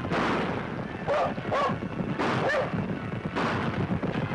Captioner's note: barking